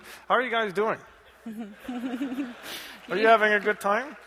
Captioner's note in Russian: смех